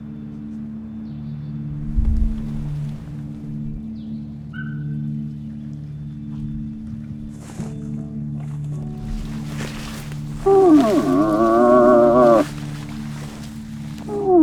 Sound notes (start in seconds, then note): 8.8 footsteps crunching; 10.3 moose call grunting